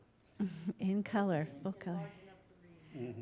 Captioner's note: laughing